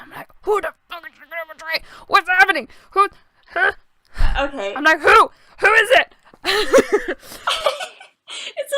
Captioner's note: laughs; laughter